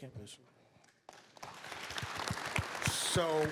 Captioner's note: applause